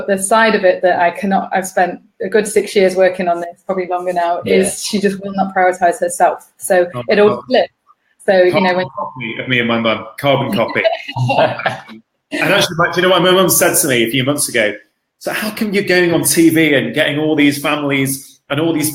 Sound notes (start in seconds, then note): 10.2 all laughing